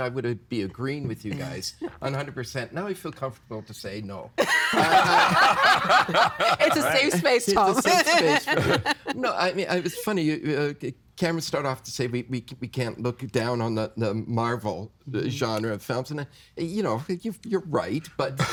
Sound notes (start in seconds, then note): 4.4 all laughing